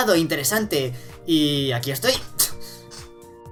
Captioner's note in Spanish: siseo